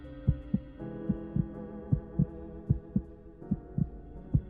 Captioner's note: heart beat